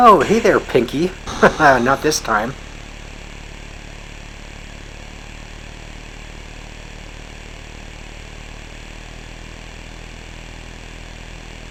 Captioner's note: chuckles